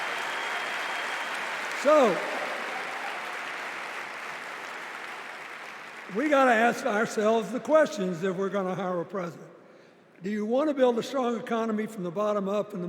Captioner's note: applause